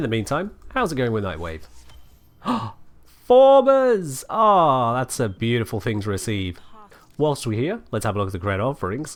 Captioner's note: gasp